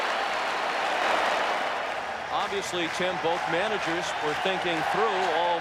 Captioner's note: applause